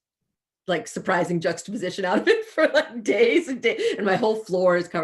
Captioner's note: chuckles